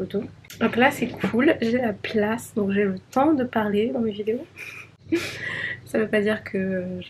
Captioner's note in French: rires